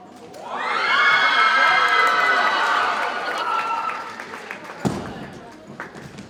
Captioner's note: audience cheers and applauds